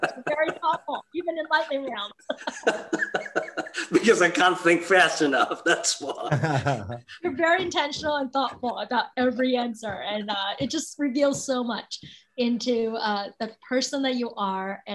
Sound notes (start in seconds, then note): 1.4 laughs